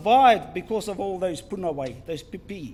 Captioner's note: foreign Language